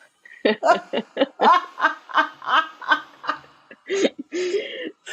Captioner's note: laugh